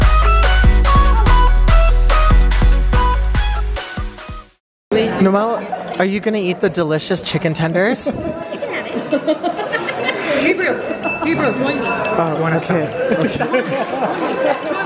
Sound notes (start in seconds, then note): 8.1 laughing; 12.2 glasses clinking